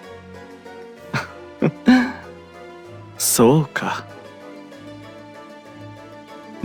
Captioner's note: laugh